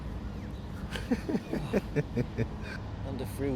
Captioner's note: laughing